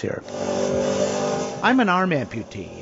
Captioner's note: car engine growling